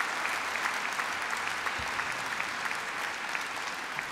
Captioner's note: applause